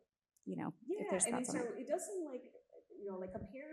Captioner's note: audience member 3 faintly speaking